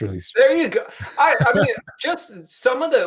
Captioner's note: laughing